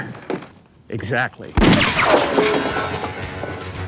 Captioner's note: gun fires; suspenseful western music